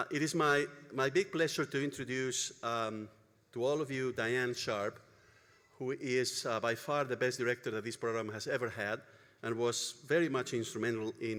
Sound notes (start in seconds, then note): none